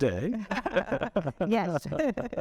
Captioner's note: chuckling